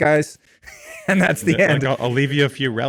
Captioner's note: laughs